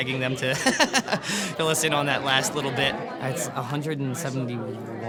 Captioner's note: laughs